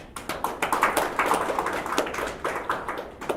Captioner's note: applause